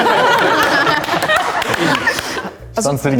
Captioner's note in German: lachen